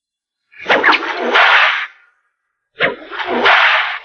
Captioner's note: cracking whip